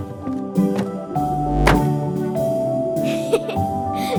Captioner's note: gentle music; magnetite thudding; giggling